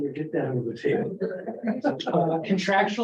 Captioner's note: laughter